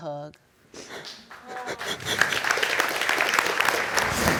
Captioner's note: audience applauds